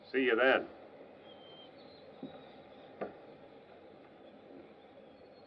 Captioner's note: silence